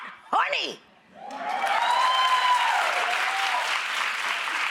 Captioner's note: audience cheers